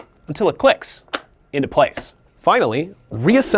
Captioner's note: nozzle clicks